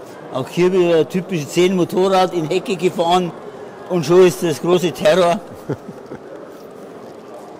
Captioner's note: laughs